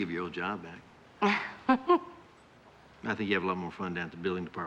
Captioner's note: laughs